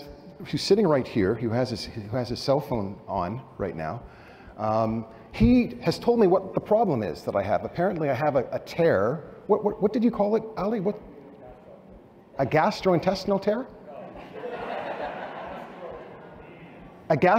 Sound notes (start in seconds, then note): 14.1 laughter